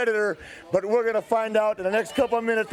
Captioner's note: crowd cheering